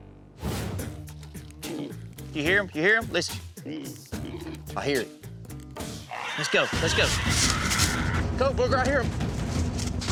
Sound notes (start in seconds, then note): 1.3 hog snorting; 3.6 hog snorting